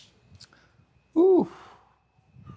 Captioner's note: sighs